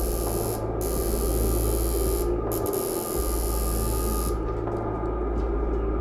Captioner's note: buzzing